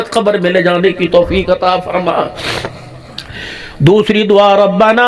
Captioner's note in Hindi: नाक से की जाने वाली आवाज़